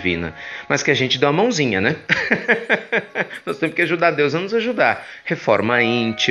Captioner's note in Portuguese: risos